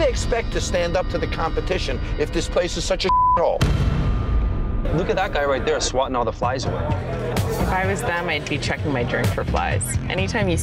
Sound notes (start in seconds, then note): 3.0 beep